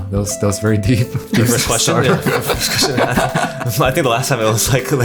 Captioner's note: laughter